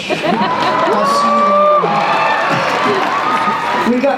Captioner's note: cheers